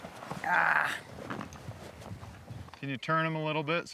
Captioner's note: woman groans